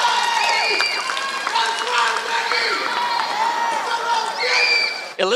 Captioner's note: applause